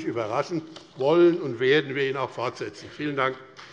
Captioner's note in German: Beifall BÜNDNIS 90/DIE GRÜNEN und CDU